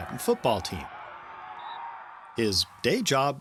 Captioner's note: whistle blows